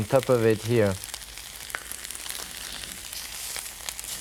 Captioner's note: meat sizzling